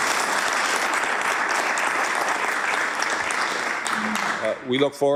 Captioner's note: applause